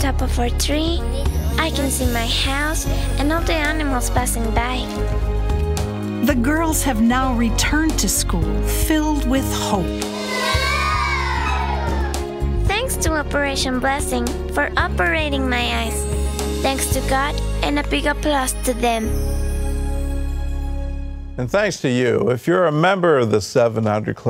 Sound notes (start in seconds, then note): 12.1 cheering